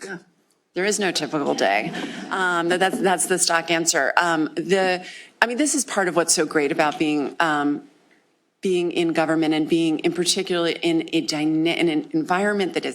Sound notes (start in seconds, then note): 1.5 laughter